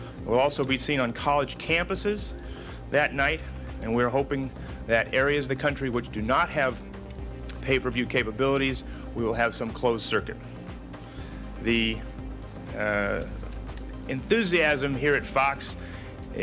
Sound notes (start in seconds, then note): none